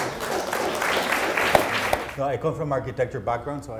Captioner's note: applause